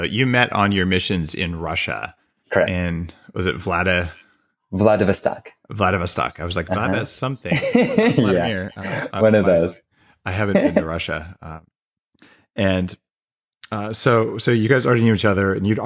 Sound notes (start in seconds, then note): 7.5 laughs